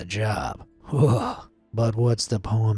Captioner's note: narrator shuddering